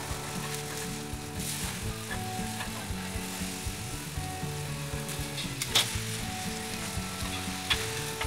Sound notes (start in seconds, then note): 0.0 fire crackling; 3.2 upbeat music